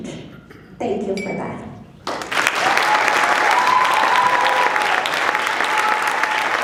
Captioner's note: applause